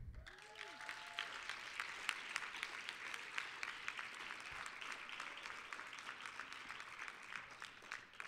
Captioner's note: applause